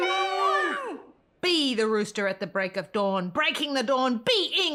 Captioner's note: crowd